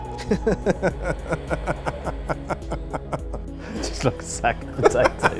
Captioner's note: laughing